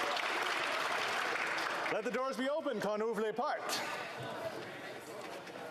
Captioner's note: applause